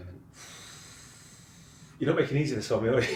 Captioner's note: exhaling